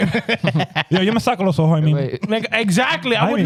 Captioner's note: laughing